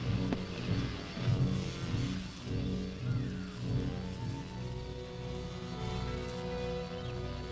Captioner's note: muffled buzzing; ominous orchestral music